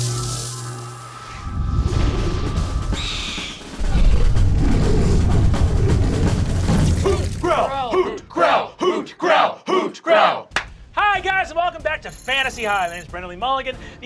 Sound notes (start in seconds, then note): 0.1 marching band music; 2.5 owlbear screech; 3.8 owlbear growls